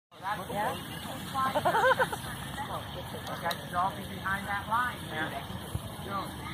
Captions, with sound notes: (talking) (laughing) gotta draw behind that line jeremy!